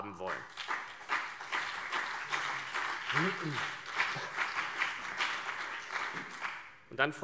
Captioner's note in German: Beifall CDU und BÜNDNIS 90/DIE GRÜNEN